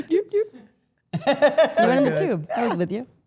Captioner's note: Rhea laughs